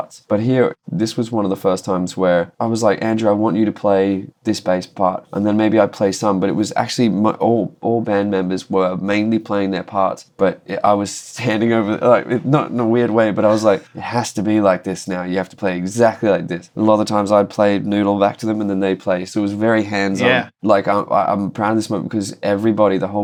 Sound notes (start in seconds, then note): 11.7 laughter